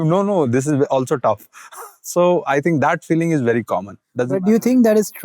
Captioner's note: chuckles